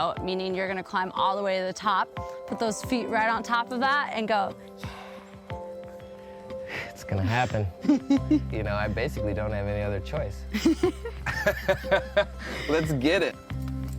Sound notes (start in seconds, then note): 7.7 laughs; 10.5 laugh; 13.7 soothing music